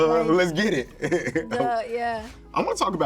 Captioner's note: laughs